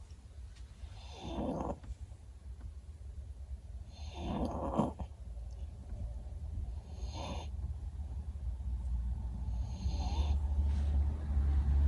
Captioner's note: snores increase in volume slightly